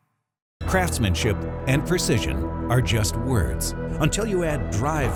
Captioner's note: voiceover